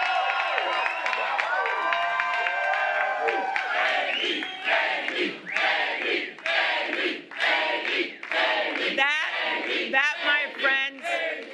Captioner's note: cheers and applause